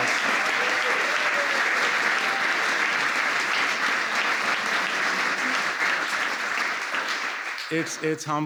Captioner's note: applause